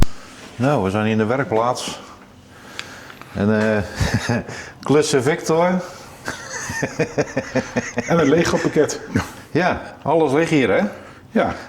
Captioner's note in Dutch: gelach